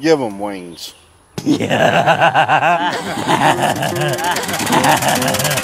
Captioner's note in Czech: Bouřlivý smích